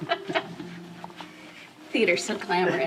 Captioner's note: laughs